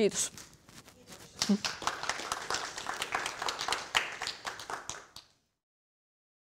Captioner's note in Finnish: yleisö kiittää ja taputtaa